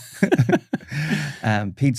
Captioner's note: laughing